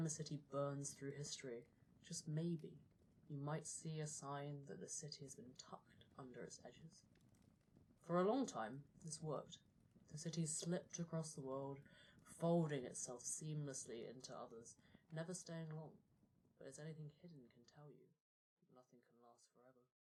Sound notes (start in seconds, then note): 7.2 voice fading out